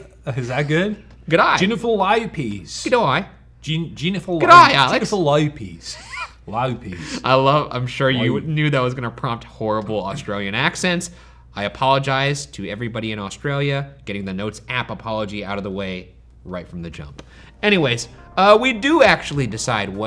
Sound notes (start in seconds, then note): 4.6 wheezes